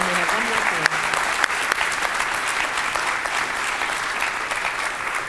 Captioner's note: applause